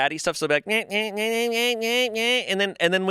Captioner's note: imitates cat meowing